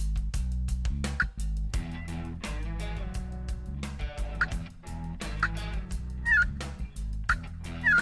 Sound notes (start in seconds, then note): 1.3 turkey calling; 1.3 upbeat music